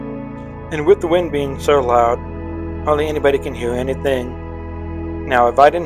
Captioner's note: voiceover